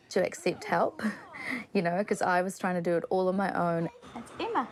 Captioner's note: chuckles